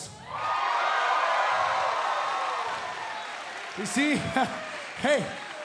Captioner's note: cheers and applause